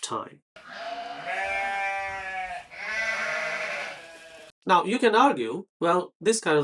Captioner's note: sheep bleating